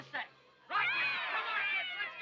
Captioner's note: crowd cheering